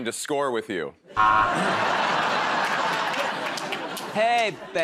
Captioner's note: laughter